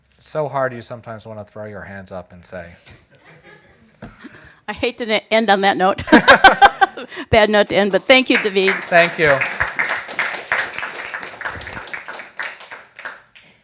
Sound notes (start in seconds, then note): 3.2 audience laughing; 6.0 everybody laughing; 8.2 audience applauding